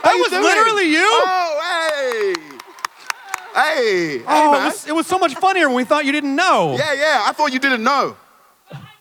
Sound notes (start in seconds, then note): 1.8 Boyega clapping